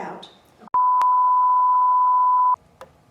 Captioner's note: beep